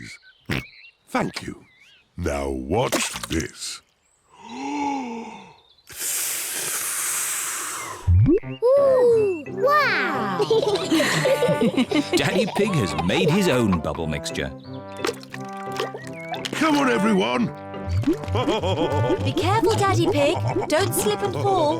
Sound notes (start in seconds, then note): 0.1 oinks; 4.1 takes big breath and blows; 10.2 all laugh; 18.1 laughs